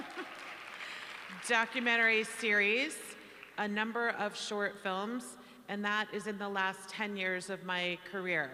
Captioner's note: applause